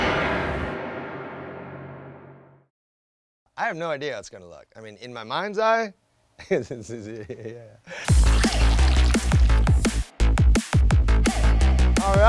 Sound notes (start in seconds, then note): 6.4 giggles; 8.1 upbeat synth music